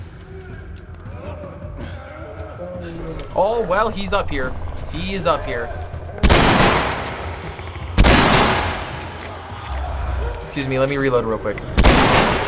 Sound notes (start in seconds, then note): 1.1 distant moaning; 6.2 gun blast; 6.4 reloading shotgun; 7.1 Bloater snarls; 8.9 reloading; 11.7 gun blast